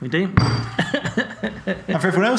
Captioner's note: pumpkin thuds onto table; laughs